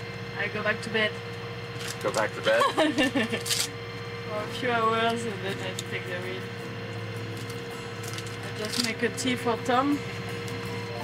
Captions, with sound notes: - I go back to bed. - Go back to bed? (laughing) - For a few hours and then I take the wheel. I just make a tea for Tom.